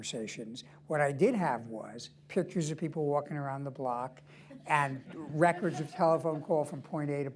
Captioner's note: laughter